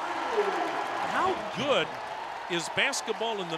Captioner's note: crowd cheering and whistling